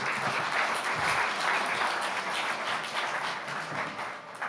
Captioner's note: audience applauds